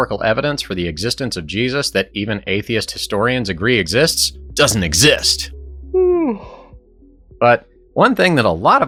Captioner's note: yawn